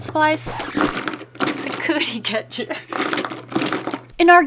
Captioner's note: laughs